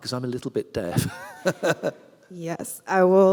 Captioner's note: laughs